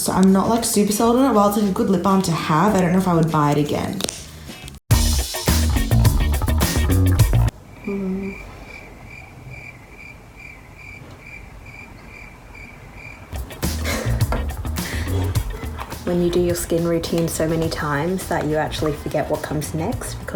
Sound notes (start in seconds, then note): 4.9 upbeat music; 8.2 crickets chirping